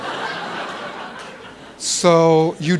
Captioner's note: laughter